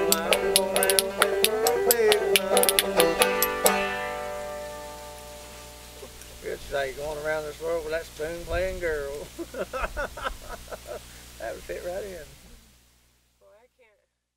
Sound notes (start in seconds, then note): 9.2 laughs